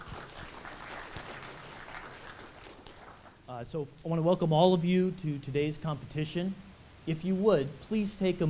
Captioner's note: applause